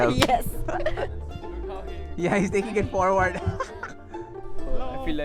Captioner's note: laughs